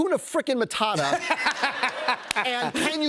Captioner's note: laughter